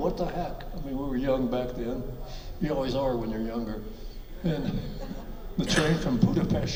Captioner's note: and audience chuckles